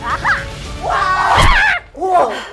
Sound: whooshing; screaming; breathing heavily

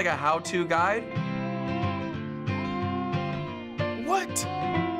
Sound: cheerful music; doll crying softly

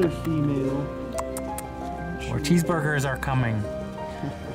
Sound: tongue clicks

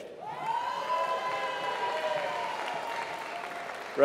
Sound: applause

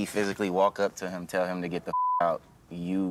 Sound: beep

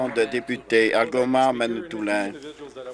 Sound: applause

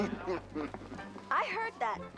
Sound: chucinklg

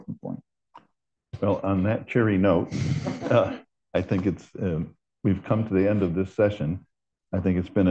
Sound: laughter

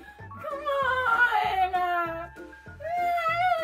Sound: whines more

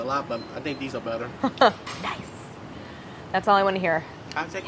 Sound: laughs

